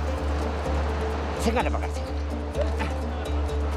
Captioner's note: foreign language spoken